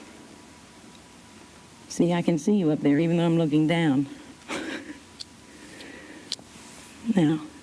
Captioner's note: laughs